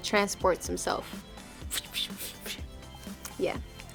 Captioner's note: making swishing sounds